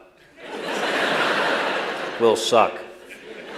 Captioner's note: laughter